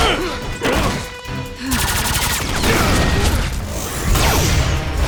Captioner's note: wincing; blasting